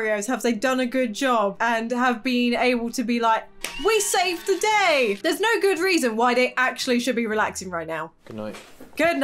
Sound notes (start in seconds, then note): 3.8 crowd cheering